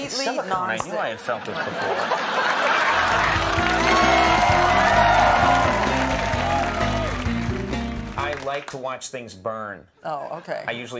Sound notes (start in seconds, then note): 1.0 audience laughing; 4.3 audience cheering